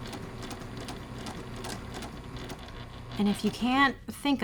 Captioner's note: sewing machine churning